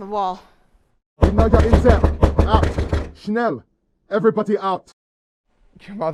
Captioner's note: knocking off screen, voices